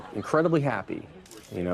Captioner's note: crowd laughing